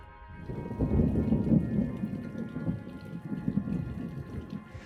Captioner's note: thunder rumbles